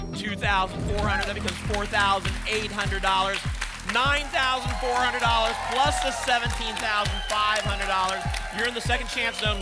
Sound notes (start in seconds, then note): 6.2 applause and cheering